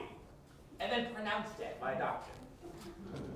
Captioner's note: nervous giggles by group